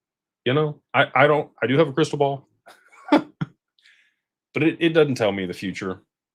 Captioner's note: laughter